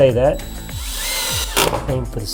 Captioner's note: drill whirs